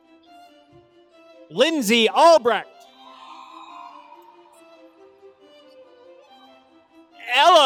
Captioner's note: applause